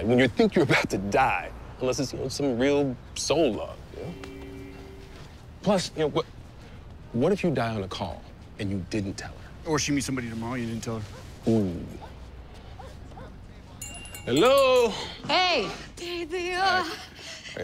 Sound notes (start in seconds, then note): 12.7 dog barking; 13.8 door bell jingles